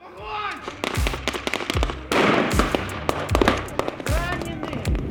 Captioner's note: sounds of gunshots